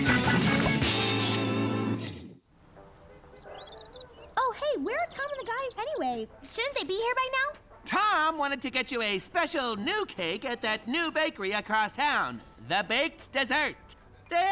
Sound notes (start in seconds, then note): 0.9 camera clicks; 2.6 birds chirp